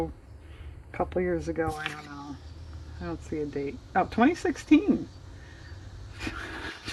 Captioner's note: laughs